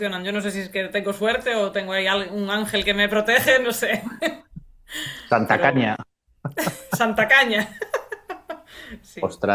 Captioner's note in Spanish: risas